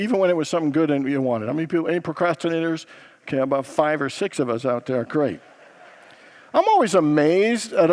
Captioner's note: congregants laugh